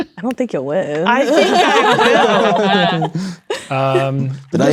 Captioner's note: laughing; players laughing